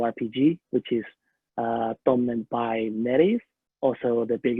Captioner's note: speaking a foreign language